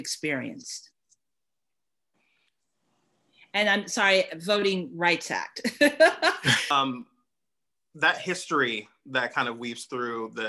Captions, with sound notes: And I'm sorry, Voting Rights Act (laughter). - That history that kind of weaves through